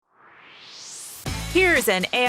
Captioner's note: swoosh